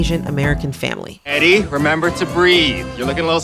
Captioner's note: soundbite of tv show, "fresh off the boat"